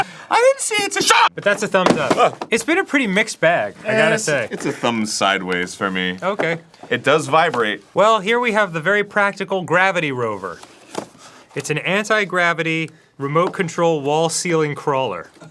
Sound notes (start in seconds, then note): none